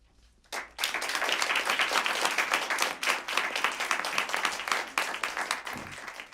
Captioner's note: applause